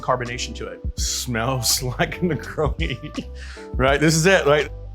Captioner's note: laughs